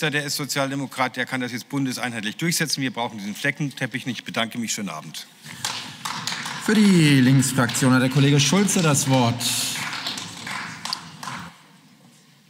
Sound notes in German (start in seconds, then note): 8.7 Beifall